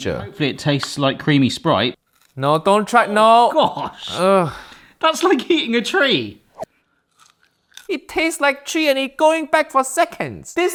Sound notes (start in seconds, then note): 7.0 galangal crunches